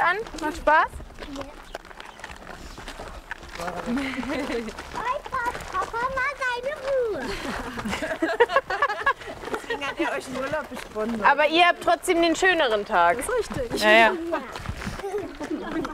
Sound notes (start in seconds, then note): 4.1 shouts